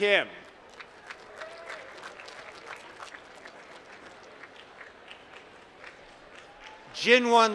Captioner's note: applause